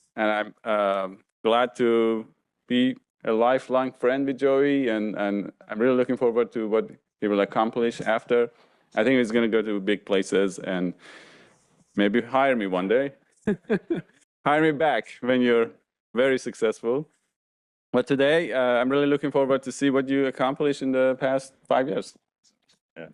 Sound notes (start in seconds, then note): 13.6 laughs